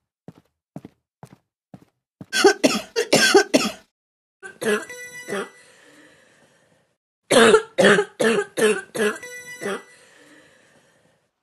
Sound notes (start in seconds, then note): 2.3 coughing